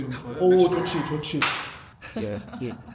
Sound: chomp

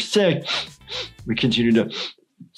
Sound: sniffing

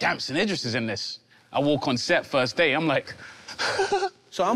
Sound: breathing nervously

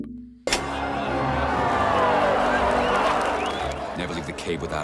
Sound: crowd cheering

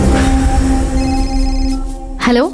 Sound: phone rings

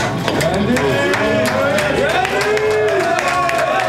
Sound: crowd cheering

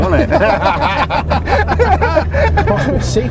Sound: they laugh

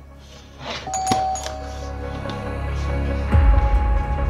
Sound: doorbell rings

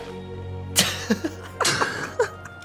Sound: laughing

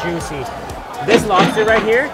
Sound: cash register ringing

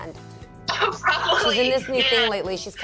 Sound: laughing

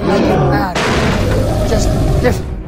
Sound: crash sound

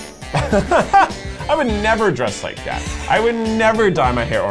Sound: laughs

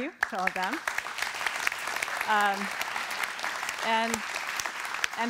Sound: applause

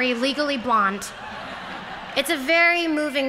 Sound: laughter

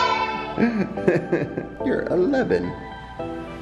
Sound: laughs

